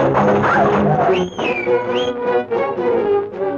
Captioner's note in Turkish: Islık sesi